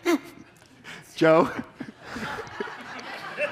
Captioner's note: audience aughter